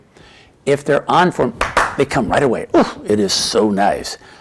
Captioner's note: clapping; sighs